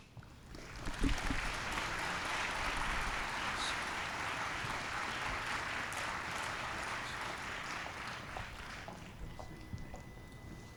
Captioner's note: applause